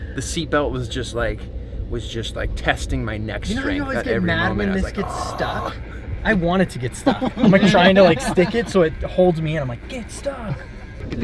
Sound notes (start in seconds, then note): 4.8 fake choking